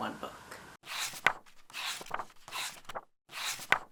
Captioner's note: pages turning